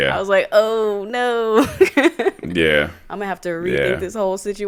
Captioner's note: chuckles